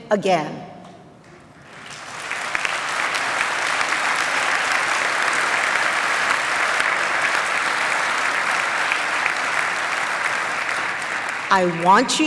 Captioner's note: applause